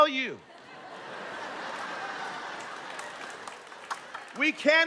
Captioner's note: laughter